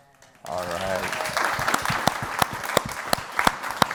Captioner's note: applause